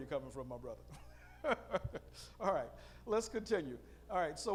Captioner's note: laughing